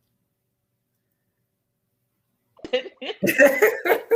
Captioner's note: both laugh